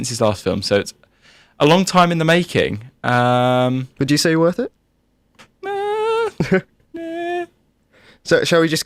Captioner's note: makes unconvinced noises